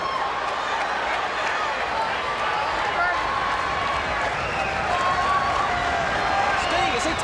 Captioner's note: crowd chatter